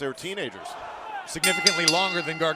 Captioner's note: bell